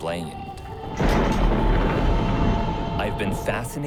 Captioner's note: thunder rumbling